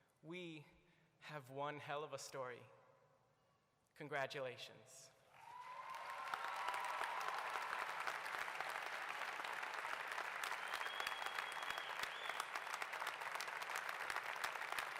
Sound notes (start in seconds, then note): 5.3 applause